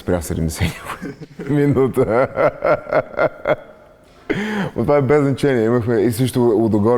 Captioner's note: laughing